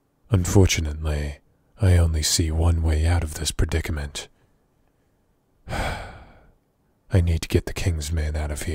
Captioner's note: sigh